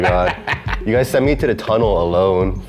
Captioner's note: laughing